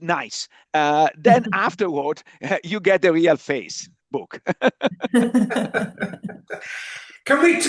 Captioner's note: chuckles